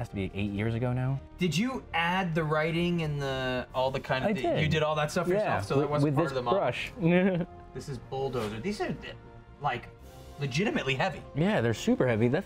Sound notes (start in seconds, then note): 7.0 laughs